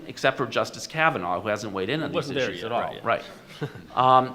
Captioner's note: overlapping chatter